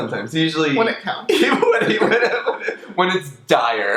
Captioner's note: both laugh